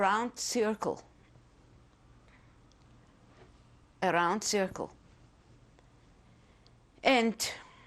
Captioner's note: pauses for 3 seconds